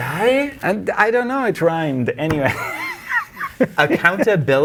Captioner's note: laughing